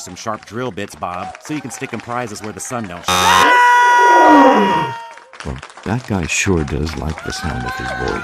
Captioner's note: screaming